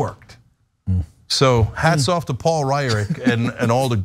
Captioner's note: laugh